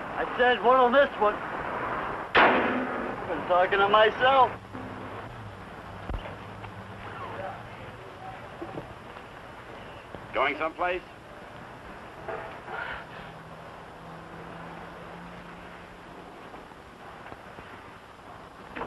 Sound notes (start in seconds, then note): 2.3 hood slams